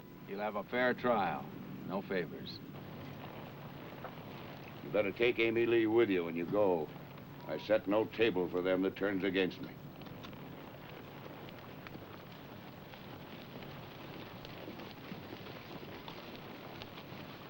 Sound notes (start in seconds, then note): none